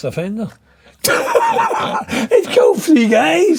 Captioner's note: laughing